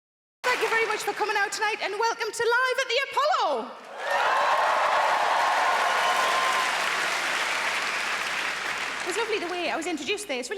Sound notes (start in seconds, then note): 3.9 audience cheering; 6.0 audience applauding